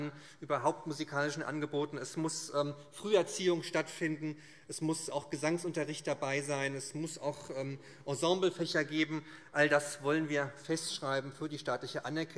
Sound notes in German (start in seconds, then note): none